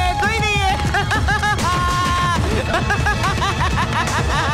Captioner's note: Laughs